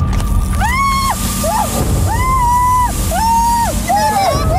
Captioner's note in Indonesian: Asam mendesis; Jeritan